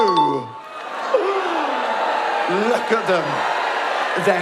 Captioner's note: shocked audience noise